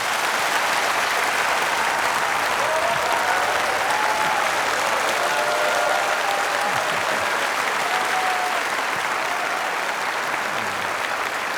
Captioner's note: applause